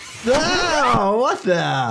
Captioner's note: doctor screams